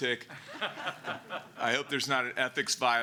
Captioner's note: laughter